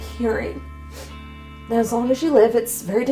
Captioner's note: sniffs